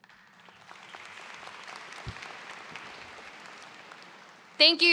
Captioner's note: audience claps